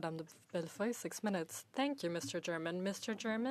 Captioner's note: speaking French